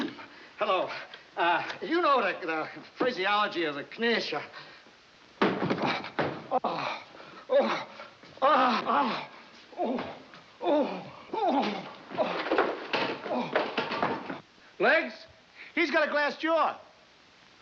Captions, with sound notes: Hello? Uh, you know the physiology of the knish.. [grunting] Ah! [grunting] Legs, he's got a glass jaw.